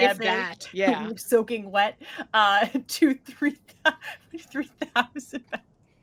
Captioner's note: laughing